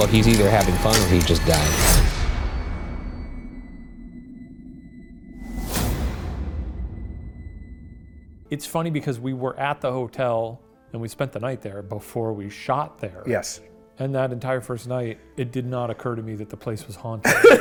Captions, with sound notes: - Well, he's either having fun or he just died. (thud booms)